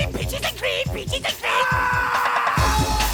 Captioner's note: screams